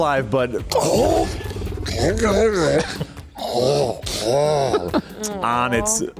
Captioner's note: throat sucking noise